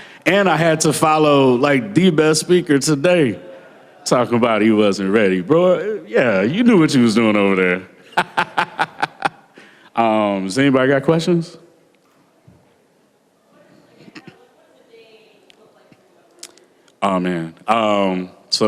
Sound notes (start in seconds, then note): 8.0 laughter